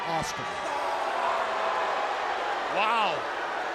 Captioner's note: crowd chatter